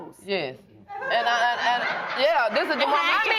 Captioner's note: audience laughing